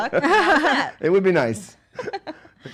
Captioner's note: laughing